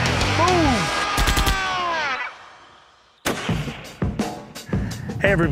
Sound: rifle firing; upbeat music

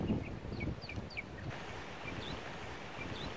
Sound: birdsong

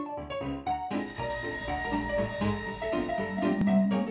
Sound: piano music; ominous noise

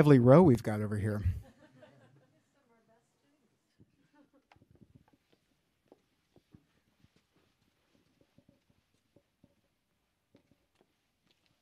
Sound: laughter

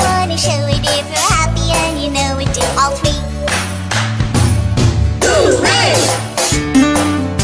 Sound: clap clap stomp stomp Hoo-Ray

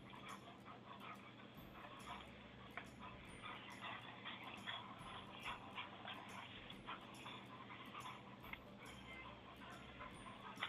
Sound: dog panting

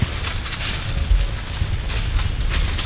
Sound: leaves crunching

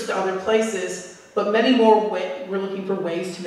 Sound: none

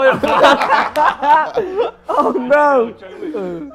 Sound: laughs

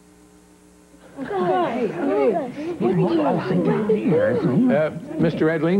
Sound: chattering

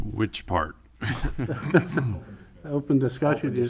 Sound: laughs loudly

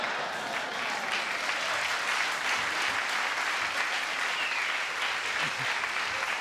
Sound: laughter and applause

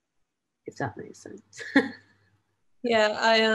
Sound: chuckles

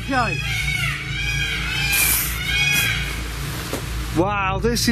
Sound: peacocks squawking

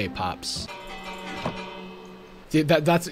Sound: bell rings

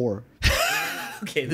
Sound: laugh

